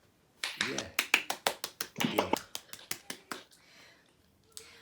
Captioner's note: applause